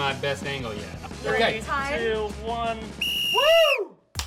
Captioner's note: whistle